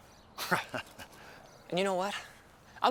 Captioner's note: Bill chuckling